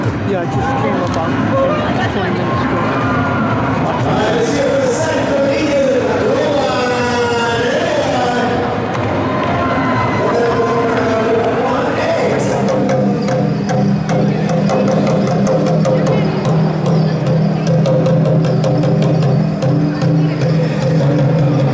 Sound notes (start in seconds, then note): 5.3 parade, crowd, and public announcer sounds; 14.3 drumming